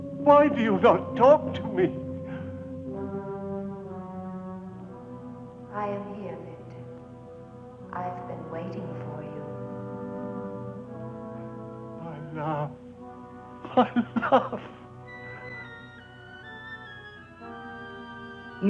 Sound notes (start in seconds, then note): 2.9 moves to ominous music; 13.6 chuckling; 16.7 mysterious music